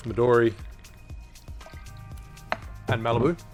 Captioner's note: liquid pours